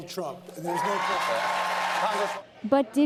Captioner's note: cheering and applause